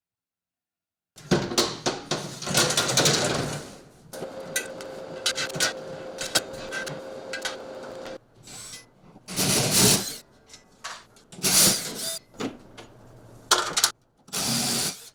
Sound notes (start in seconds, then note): 1.4 metal clanking; 9.4 drill whining